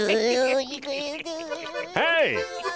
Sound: laughing

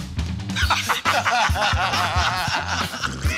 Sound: laughter

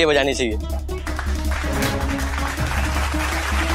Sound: clapping

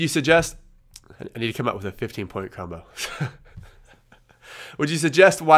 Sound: laughs

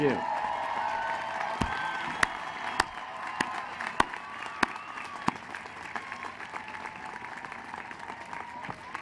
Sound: applause and cheering

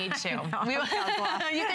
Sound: laughter

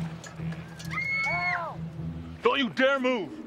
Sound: Caitlin screaming

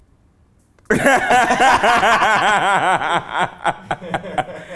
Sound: both Laugh

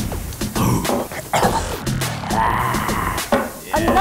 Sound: gagging

